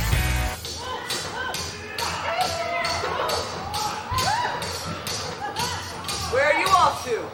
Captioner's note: swords clashing offstage